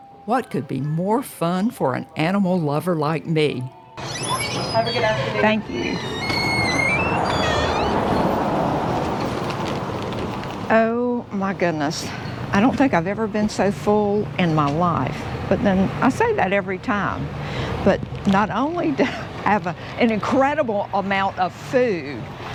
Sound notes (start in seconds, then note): 6.7 door squeaking